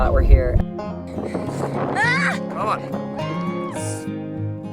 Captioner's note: yells